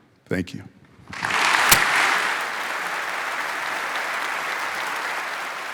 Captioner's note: audience applauding